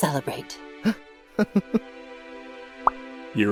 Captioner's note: Silver Spoon laughs